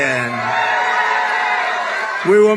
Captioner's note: applause